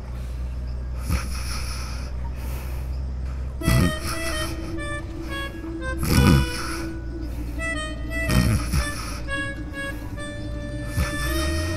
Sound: snoring

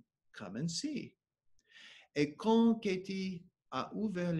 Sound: speaking French

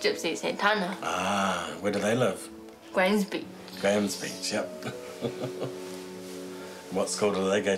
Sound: chuckles

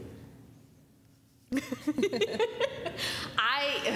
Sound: laughter

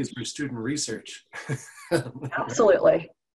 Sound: laughs

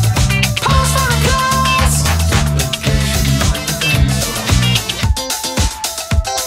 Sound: clap clap clap

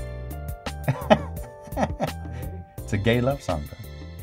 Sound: laughs

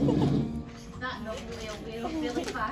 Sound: chuckles

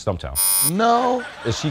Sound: buzzer; laughter

